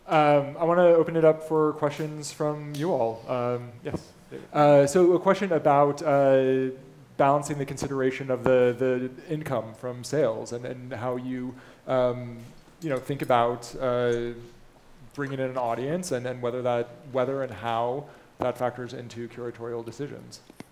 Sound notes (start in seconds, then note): none